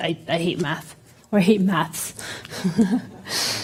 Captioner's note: laughter